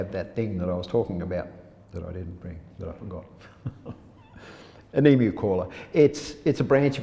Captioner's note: laughs